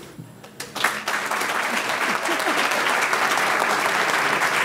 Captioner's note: audience clapping